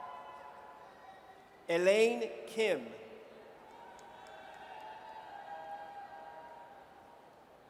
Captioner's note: audience cheers; audience cheers